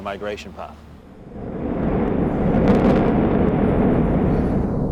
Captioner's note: explosion